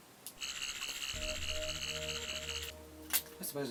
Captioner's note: Sonic screwdriver buzzing